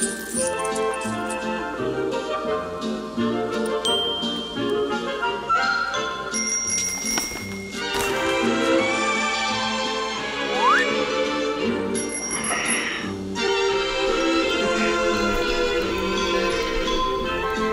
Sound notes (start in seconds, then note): 0.0 coins clinking; 0.9 whimsical music; 3.8 ding; 6.2 bell chiming; 10.5 slide whistling up; 11.9 bell chiming; 14.8 whimsical music